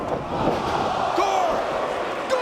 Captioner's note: spectators exclaiming